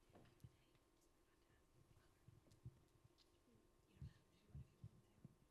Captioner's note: faintly whispering